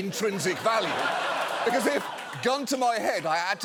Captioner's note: audience laughs